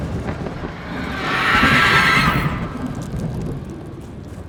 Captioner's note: creatures screeching